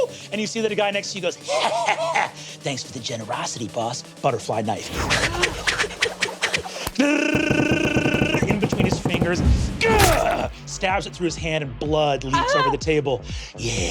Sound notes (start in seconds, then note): 7.3 mimics knife thudding rapidly; 9.9 grunts